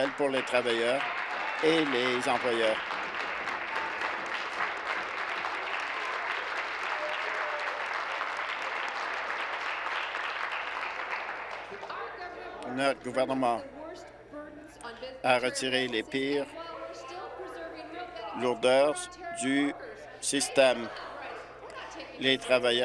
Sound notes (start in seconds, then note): 6.5 applause